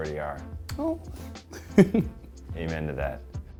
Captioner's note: laughs